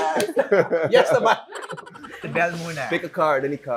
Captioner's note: laughing sfx